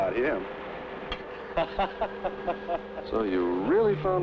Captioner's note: laughing